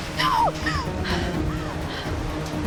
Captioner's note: gasps